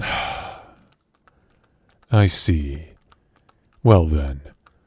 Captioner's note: sigh